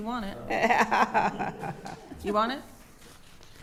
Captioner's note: laughing